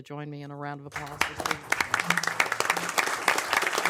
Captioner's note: applause